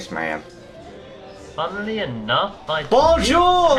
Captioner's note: awful Voice